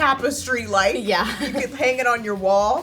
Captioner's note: laughs